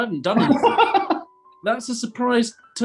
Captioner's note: laughing